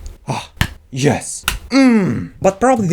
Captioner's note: asmr ball bouncing sounds